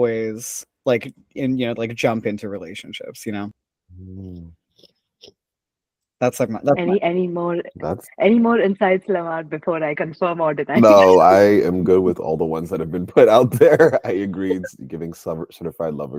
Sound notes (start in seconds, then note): 10.8 laughs